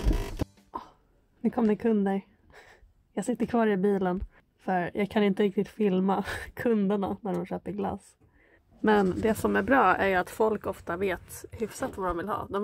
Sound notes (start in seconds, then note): 2.5 gasp